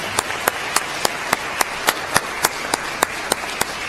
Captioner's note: applause